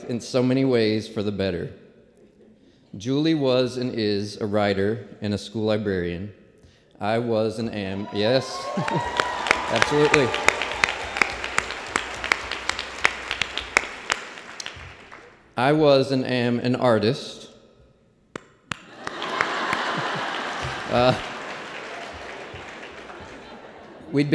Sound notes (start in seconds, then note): 11.3 applause; 15.2 applause and laughter